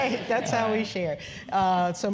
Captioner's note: laugh